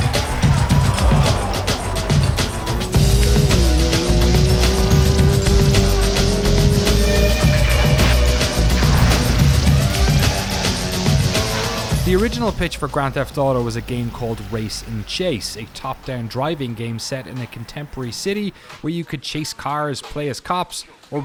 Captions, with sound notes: (car engine roaring) (hip hop music) The original pitch for Grand Theft Auto was a game called Race and Chase, a top-down driving game set in a contemporary city where you could chase cars, play as cops,